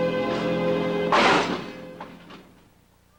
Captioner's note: crash